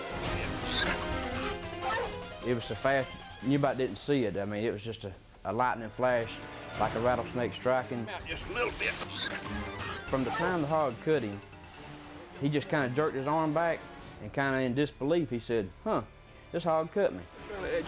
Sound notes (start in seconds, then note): 1.8 boar squealing; 1.8 dog barking; 8.8 boar squealing